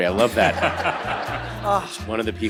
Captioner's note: all laughs